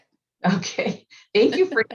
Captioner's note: laughing